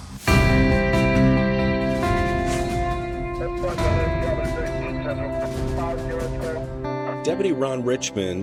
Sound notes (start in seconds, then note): 0.2 soft music; 3.6 police radio chatter